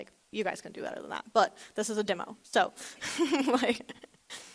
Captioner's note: laughs